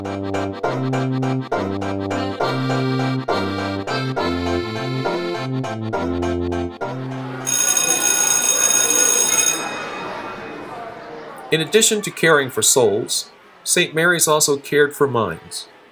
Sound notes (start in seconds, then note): 0.0 accordion music continues; 7.1 school bell and children playing